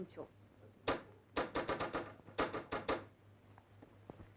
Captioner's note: door knocking